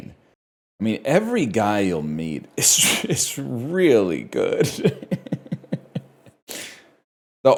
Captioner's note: laughs